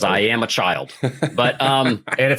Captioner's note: laughs